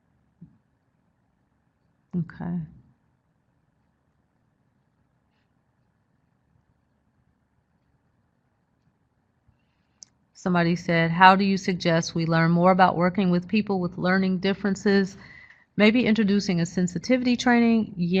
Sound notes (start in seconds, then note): 3.0 silence-going through chat box